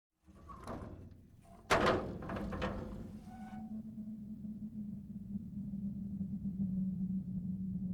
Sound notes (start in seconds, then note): 1.4 door creaking open; 1.6 eerie wind blows